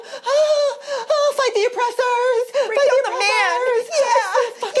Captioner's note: moans